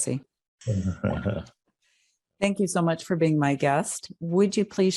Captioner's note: laugh